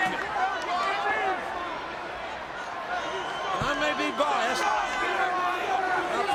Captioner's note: applause